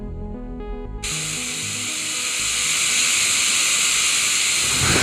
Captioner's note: drill whirring